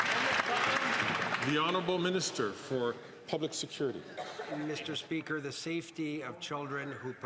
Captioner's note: some Applause